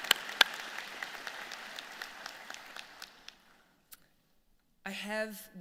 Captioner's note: applause